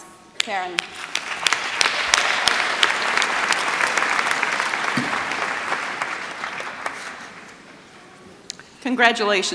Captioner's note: applause